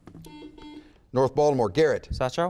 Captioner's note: buzzer beeps